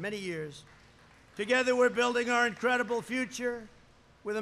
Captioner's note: applause